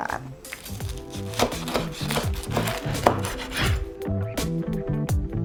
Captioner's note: bread crunching; knife thumping; light music